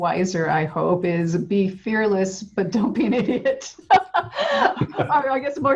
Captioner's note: laughs